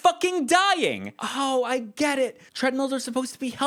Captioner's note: Sardonic